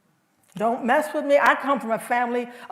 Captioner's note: none